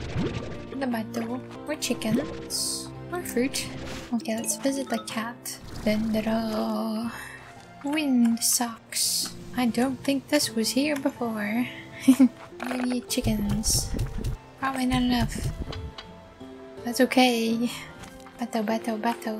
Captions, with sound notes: For the batto More chickens More fruit Okay let's visit the cat Dun-da-da! Wind socks! I don't think this was here before (giggle) Do I need chickens? Probably not enough That's okay Batto, batto, batto